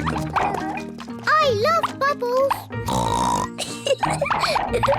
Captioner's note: oinks and giggles